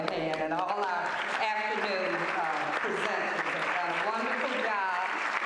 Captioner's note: applause